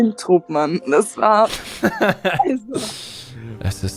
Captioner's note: joyful laugh <3